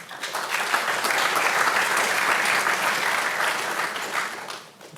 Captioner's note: audience applauding